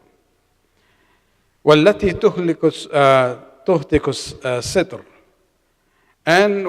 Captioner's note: arabic